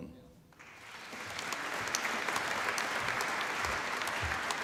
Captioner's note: applause